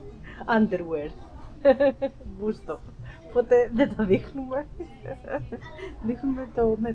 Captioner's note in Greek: γέλια